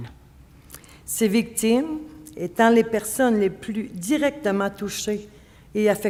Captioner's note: speaking French